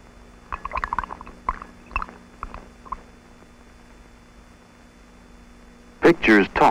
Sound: sound of liquid bubbling in a beaker in the lab

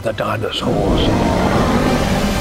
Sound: roars

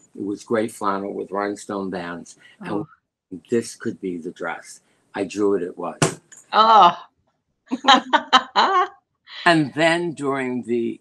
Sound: laughter

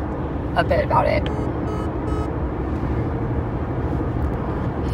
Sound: phone beeps

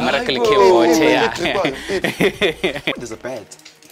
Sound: men speaking in foreign language

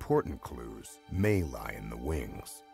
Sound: voiceover

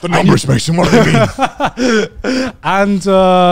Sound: everyone laughs

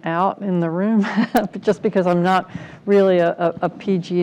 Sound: laugh

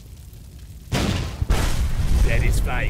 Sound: boom! bam!

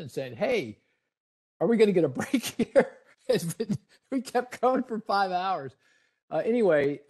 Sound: laughing

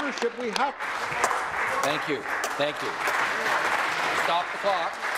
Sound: applause

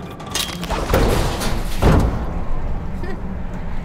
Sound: motor crashes

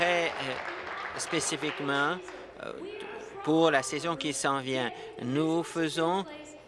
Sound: applause

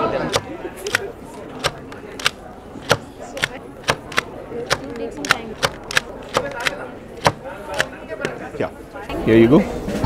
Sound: stamping/ clicking sound

